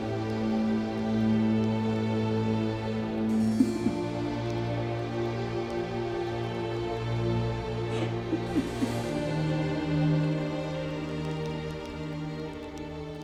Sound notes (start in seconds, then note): 3.3 sobbing; 5.9 soft music